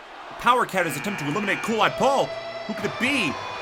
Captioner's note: buzzer buzzes